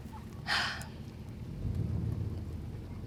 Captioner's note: sighs deeply; car engine roaring